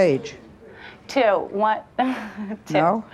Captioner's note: giggles